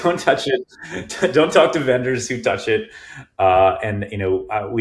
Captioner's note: chuckling